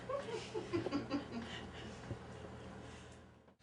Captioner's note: laughing